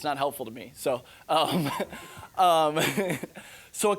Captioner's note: laughing